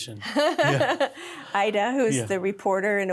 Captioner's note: laugh